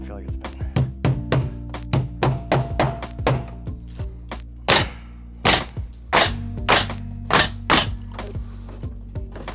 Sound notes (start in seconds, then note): 1.9 hammering; 5.0 nails clicking